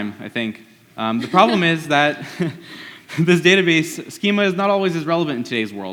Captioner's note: laughs